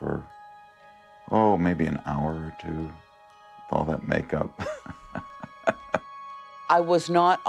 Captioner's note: laughs